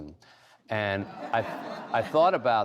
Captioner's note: laughter